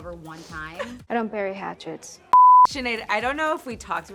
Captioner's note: beep